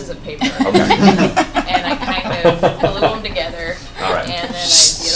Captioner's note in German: Gelächter